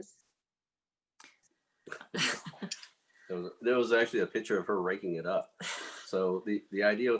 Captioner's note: laughs